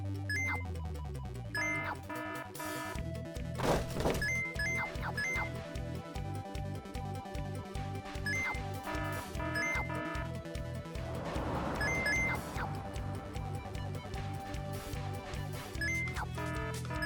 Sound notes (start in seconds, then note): 1.5 item beeps; 1.5 alarm blaring; 3.6 fence crashing; 4.0 item beeps; 8.9 alarm blaring; 9.5 item beeps